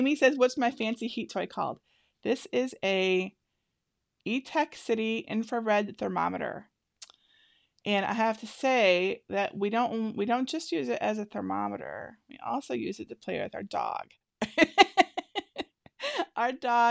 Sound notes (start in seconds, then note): 14.5 laughs